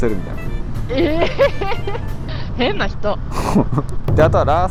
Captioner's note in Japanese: 笑い; 鼻息